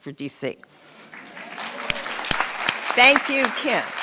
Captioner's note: audience clapping